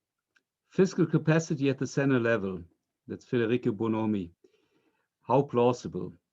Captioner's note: french